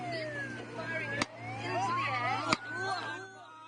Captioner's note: gunshots